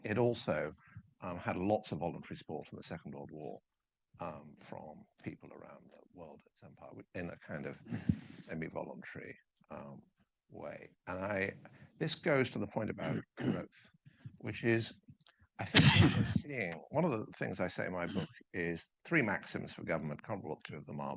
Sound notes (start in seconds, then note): 15.6 coughing drowns out